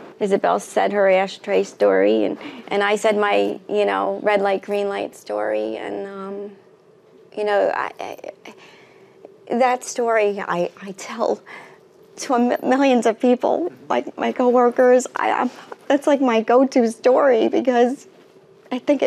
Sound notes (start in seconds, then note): none